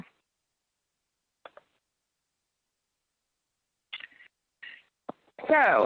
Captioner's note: silence